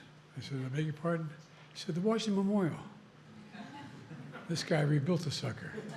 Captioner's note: laughter